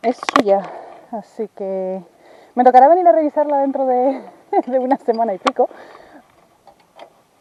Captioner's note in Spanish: se ríe